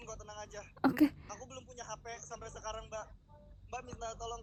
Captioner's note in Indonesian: tertawa